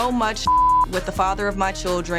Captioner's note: beep